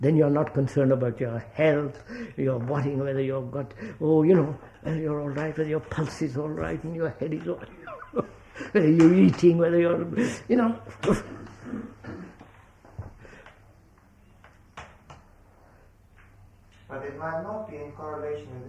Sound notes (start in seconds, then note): 7.5 laughs